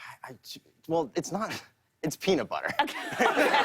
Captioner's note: laughter